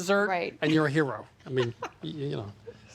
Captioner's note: laughs